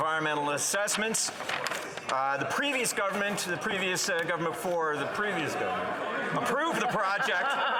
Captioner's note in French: voix de l'interprète